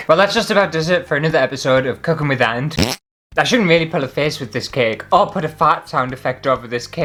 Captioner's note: fart!